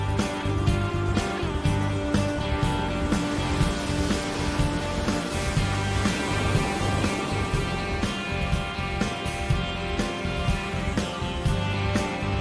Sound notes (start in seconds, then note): none